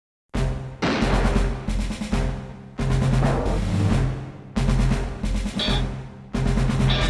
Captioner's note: anthemic music; gunshot banging